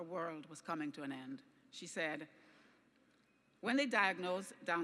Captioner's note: none